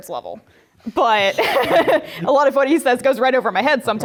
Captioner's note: laugh